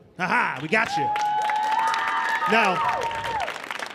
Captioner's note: audience cheering